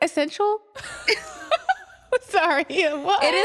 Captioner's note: laughter